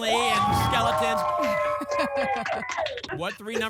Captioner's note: applause and cheering